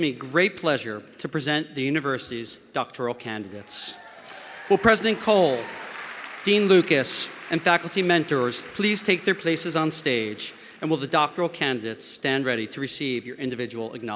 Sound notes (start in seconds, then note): 3.6 cheers and applause